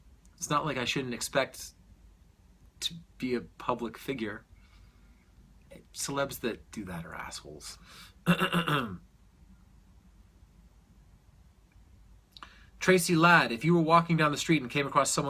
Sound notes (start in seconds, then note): 8.2 clears throat